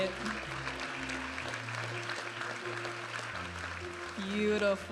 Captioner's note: audience applauding and cheering